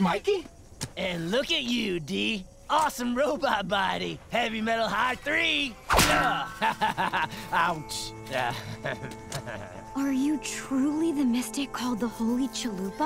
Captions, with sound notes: And look at you, D. Awesome robot body. Heavy metal high three. [laughing] Ouch. [chuckles] Are you truly the mystic called the Holy Chalupa?